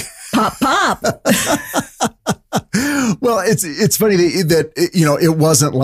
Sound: laughing

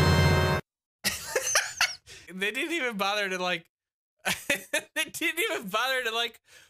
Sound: laughs

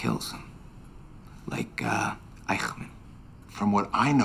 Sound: speaks foreign language

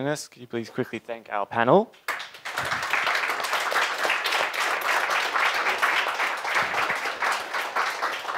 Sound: applause

